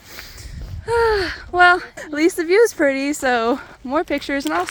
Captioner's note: sigh